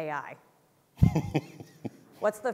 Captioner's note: laughs